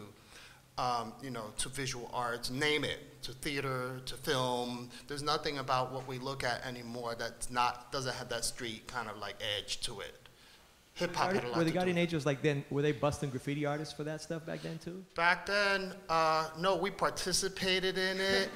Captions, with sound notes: ya know, to visual arts. Name it, to theater, to film. There's nothing about what we look at anymore that's not, doesn't have that street kind of like edge to it. Hip hop had a lot to do with it. - [Voiceover] Were the guardian angels like then, were they bustin' graffiti artists for that stuff back then too? - Back then, no, we participated in it.